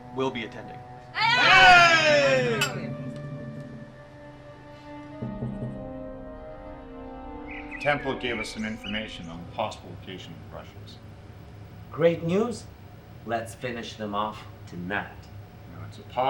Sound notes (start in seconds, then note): 0.8 suspenseful music; 1.1 group exclaims; 2.8 suspenseful music